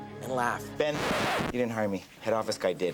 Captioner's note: record scratches